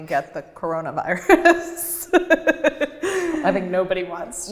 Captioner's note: laughs